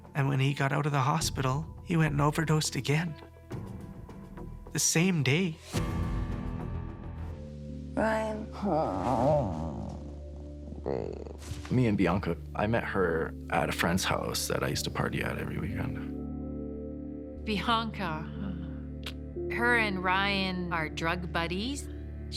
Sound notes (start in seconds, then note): 8.2 groaning